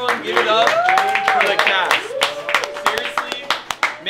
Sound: clapping

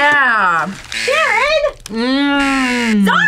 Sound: buzzer rings

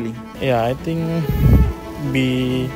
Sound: exhales

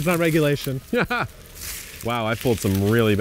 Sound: laughs

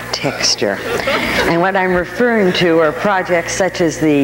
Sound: audience laughing

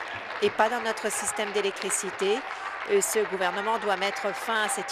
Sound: applause

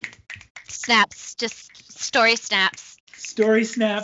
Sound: snaps

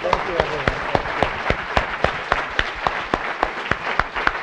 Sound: applause

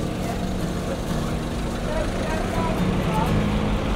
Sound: nearby car engine noise

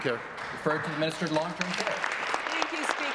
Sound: applause

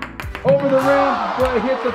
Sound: ball clacks; disappointed crowd

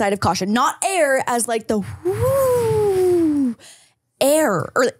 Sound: imitating wind blowing

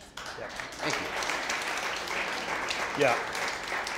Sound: audience applauding

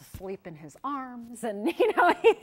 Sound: laughs

